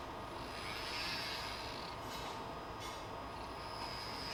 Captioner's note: mechanical whirring